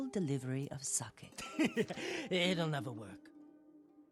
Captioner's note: laugh